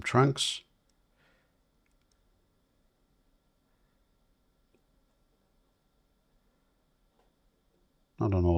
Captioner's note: silence